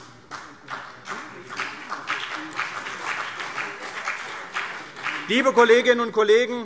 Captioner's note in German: Beifall CDU und vereinzelt BÜNDNIS 90/DIE GRÜNEN